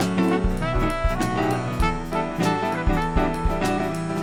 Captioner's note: none